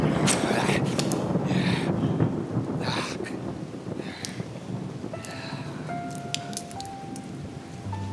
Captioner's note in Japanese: 雷鳴; レゴシの荒い息